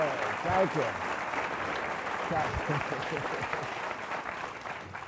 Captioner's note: applause